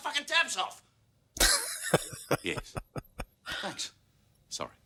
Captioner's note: laughing